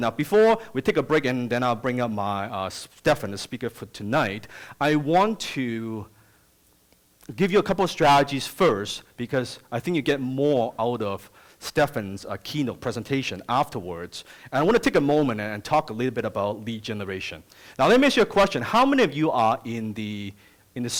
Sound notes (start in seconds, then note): none